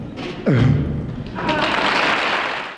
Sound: audience applauds

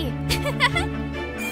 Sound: laughter

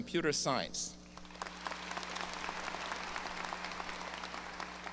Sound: audience applause

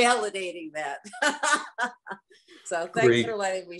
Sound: laughs

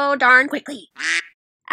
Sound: quack

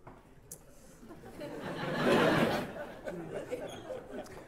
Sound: laughter

